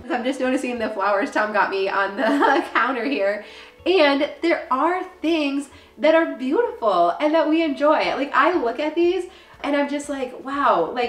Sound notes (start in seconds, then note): 2.2 laughs